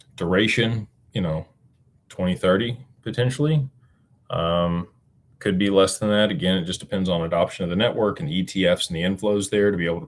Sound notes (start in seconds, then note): none